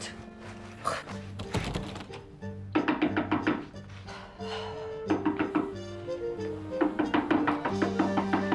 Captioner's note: door handle jiggling; knocking on door